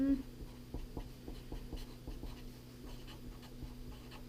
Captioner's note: pen scratching